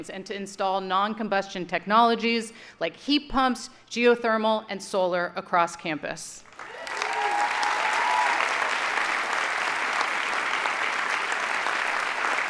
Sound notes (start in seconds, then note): 6.5 audience cheering and applauding